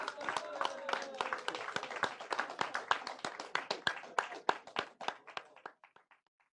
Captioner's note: applause